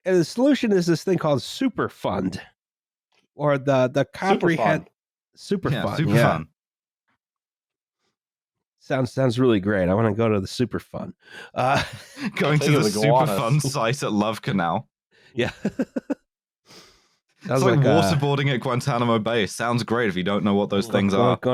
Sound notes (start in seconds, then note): 11.6 laughter; 17.5 laughs